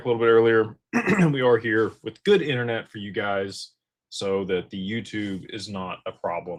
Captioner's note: clears throat